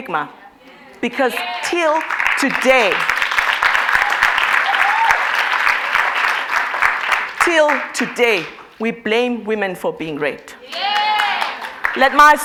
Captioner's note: applause